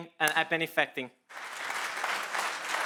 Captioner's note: audience applauds